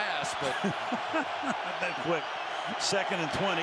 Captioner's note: laughs